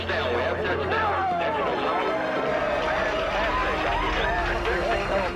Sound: people cheering

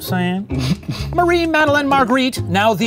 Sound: chuckles

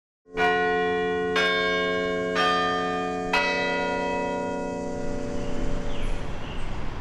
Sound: campanile bells; birds chirping

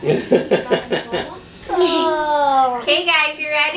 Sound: laughs

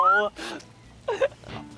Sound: chuckles

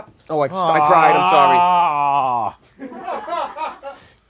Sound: Bowser warbles; audience laughs

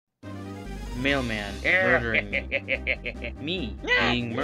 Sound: being murdered

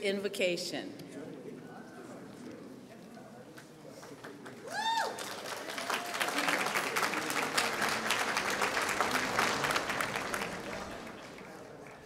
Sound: applause

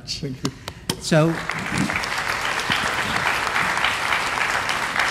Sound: applause

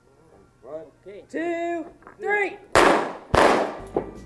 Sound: gunshot

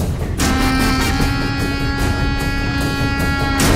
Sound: none

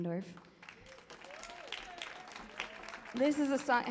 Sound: audience applauds

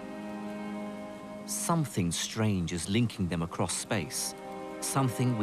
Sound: voiceover

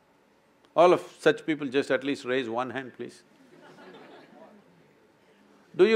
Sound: few laugh

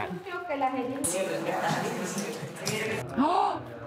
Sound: speaking foreign language

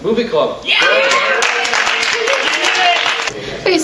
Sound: cheering

